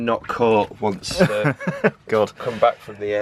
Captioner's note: laughs